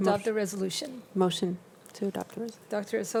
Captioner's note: speaks faintly